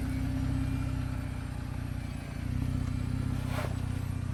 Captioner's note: car motor hums